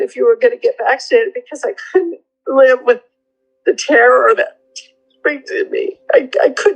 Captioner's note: crying